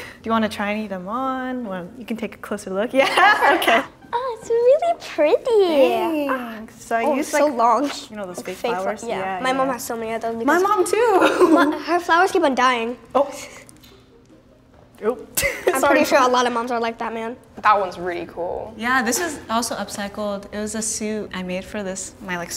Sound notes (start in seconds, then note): 3.1 laughing